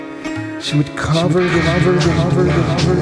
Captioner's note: echoing